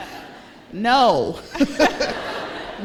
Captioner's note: laughter